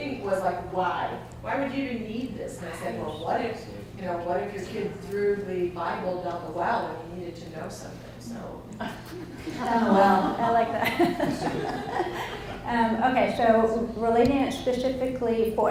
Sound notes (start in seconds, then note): 8.9 audience laughs; 12.3 laughs